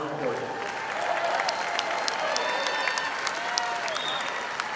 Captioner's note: audience applauding